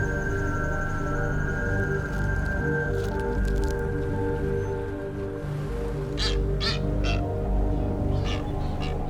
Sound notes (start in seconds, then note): 6.1 bird squawking